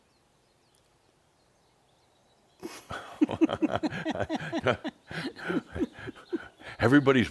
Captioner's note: slight pause and they chuckle